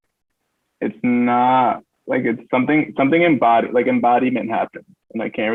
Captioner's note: stutters